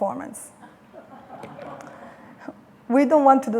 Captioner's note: laughter